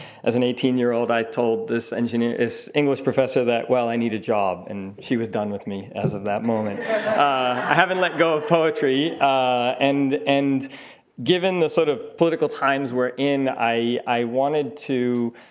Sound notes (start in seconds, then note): 6.4 audience laughing